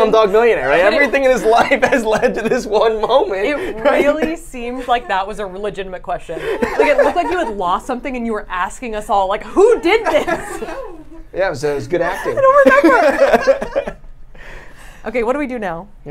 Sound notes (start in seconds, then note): 6.3 laughs; 9.5 laughs; 12.2 laughs